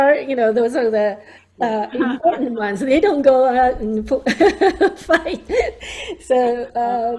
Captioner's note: laughs